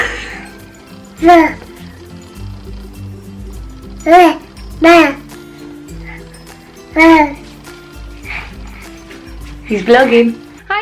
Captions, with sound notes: (laughing) (baby babbling) He's vlogging.